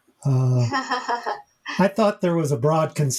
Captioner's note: author laughing